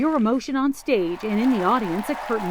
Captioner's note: cheers and applause